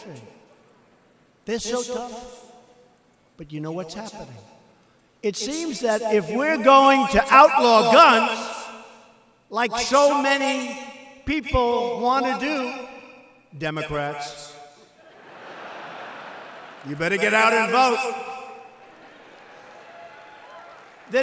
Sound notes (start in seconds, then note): 15.0 laughter; 18.8 applause